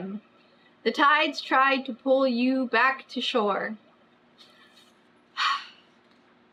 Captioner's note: exhales loudly